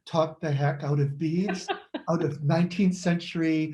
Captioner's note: laughs